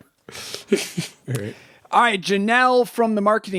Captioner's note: chuckling